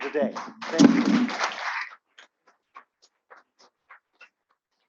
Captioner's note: applause